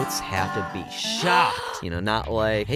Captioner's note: woman gasping